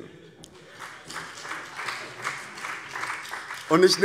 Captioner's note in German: Beifall BÜNDNIS 90/DIE GRÜNEN